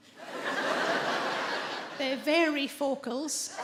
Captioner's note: audience laughing